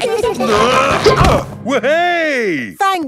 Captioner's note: all giggling; grunting